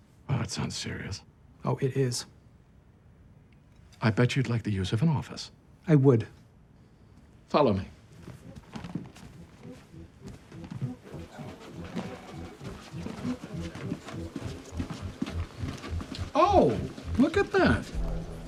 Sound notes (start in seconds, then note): 8.3 footsteps tapping; 10.2 suspenseful music; 10.2 telephone ringing; 14.3 footsteps tapping continues